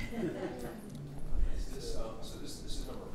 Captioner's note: participants laughing